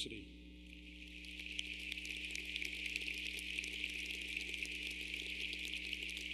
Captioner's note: clapping